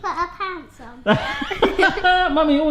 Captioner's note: laughs